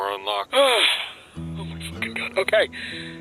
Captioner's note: sigh